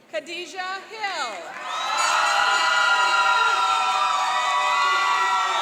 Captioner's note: cheering and applauding